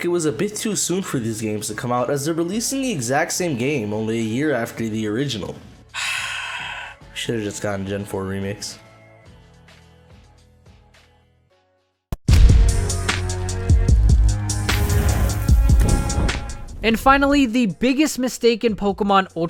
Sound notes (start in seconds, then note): 5.9 sigh